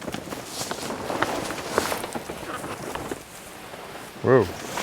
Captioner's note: tarp rustling